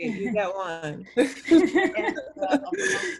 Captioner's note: laughs softly